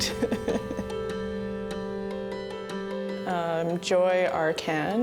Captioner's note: laughing